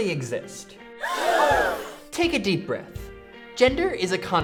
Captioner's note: loud gasp from group